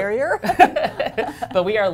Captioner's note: laughter